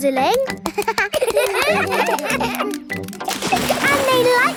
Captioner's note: children laugh